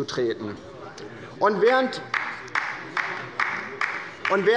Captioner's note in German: Beifall bei der LINKEN